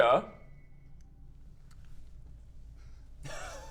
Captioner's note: disgusted silence